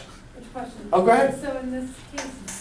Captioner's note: voiceover